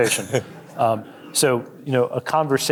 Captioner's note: audience chuckling